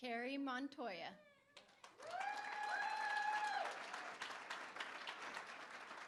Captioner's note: applause; cheering